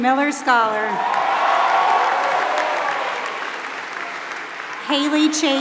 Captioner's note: applause